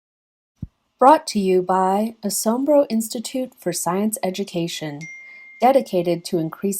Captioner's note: ding